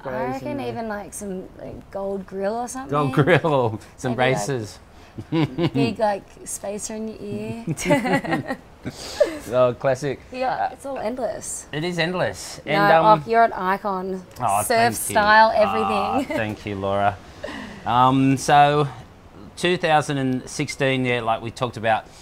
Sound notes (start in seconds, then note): 7.2 laughs